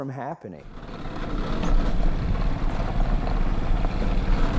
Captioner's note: engine running